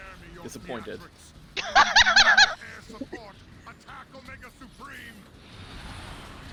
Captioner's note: laughs